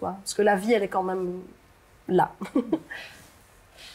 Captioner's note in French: rire